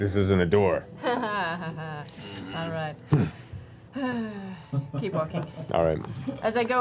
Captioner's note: laughs